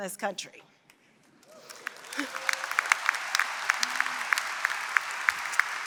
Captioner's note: applause